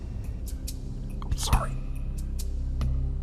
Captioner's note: whispering